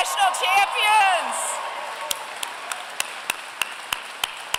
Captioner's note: applause